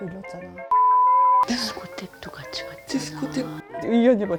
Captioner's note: whispering